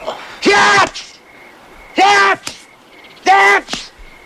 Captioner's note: shouting